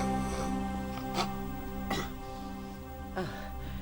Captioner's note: snoring